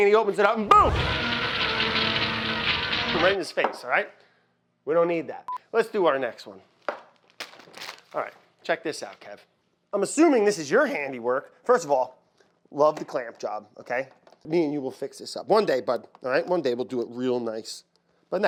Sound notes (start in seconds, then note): 0.7 man screams; 0.7 terrifying music